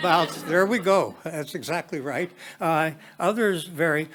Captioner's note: attendees chuckling